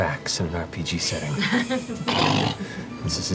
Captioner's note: laughter